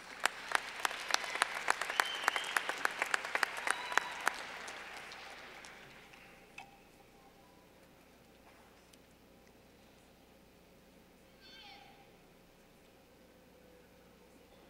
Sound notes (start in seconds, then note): 2.8 clapping